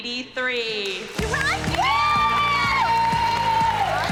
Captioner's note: cheering and applause